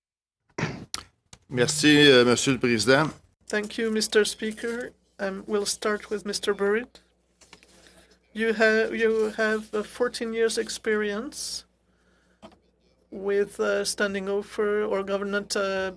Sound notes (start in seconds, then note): 9.1 speaking French